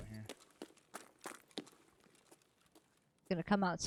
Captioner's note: footsteps